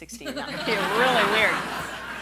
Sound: laughing

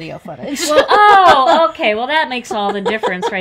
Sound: laughs

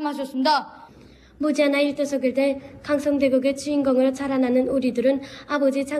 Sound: speaks in foreign language

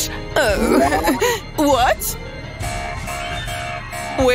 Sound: moaning

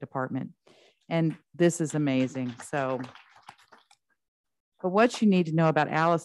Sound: trustees clapping

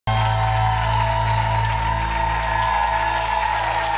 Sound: applauding and cheering

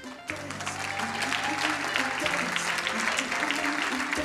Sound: crowd cheering and applauding

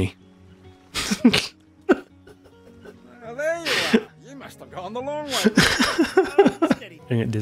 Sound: laughter

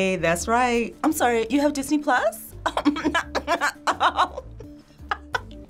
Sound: laughs

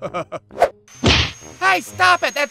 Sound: whoosh-thwack!

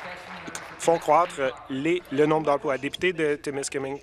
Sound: applause

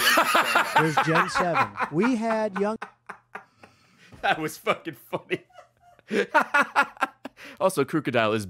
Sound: laughs

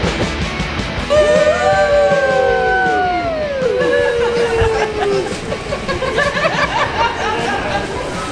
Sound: laughing

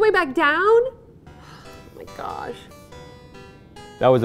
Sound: sighs

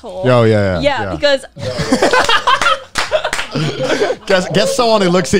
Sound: everybody laughs

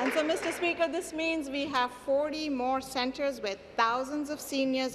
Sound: applause

